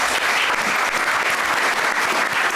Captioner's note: applause